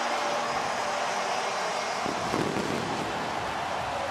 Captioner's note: crowd cheering